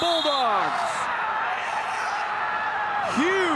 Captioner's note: spectators cheering